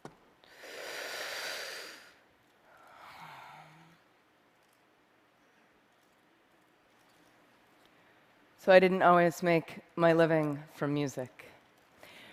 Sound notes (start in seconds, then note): 0.4 breathes in; 2.7 breathes out